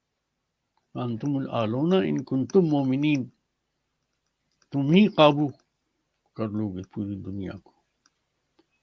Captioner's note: speaks arabic